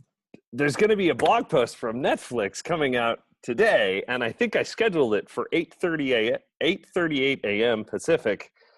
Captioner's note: none